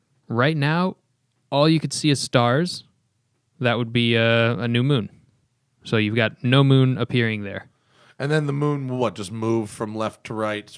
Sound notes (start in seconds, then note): none